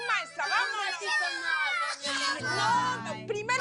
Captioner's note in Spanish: Algarabía de los niños